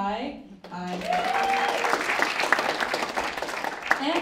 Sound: applause

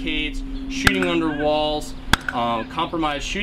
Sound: gun firing

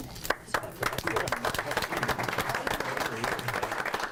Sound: group applauds

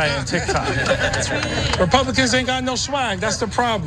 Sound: laugh

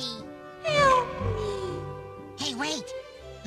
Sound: echoes

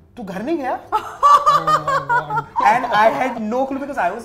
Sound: laughter

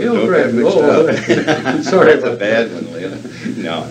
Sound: laughs

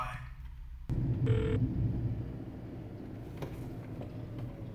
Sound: phone rings

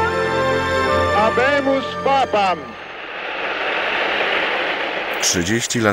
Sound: English

